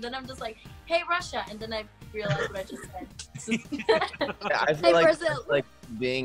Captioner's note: laughs